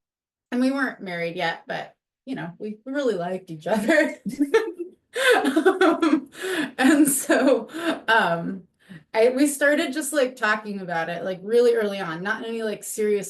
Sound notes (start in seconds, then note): 5.2 laughs